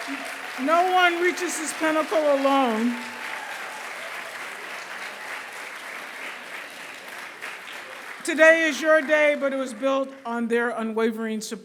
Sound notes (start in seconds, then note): 3.2 applause